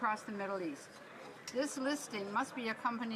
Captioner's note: none